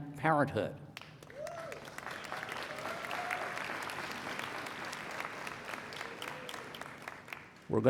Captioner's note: applause